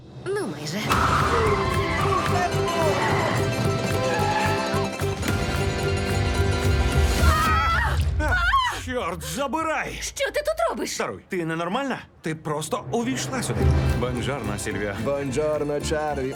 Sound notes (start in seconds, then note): 0.8 exclaims; 0.8 tires screech; 7.2 both scream; 7.2 screams